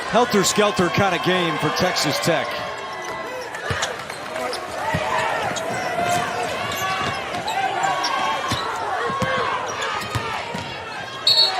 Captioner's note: whistle